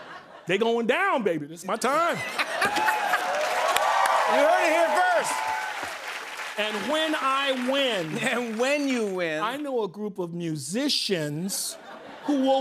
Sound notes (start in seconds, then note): 1.8 laughter; 2.4 cheers and applause